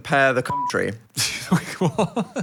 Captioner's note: beeps; Phil laughs